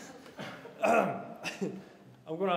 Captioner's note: clears throat